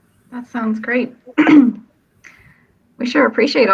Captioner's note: coughs